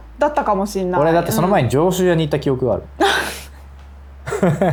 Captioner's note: laughs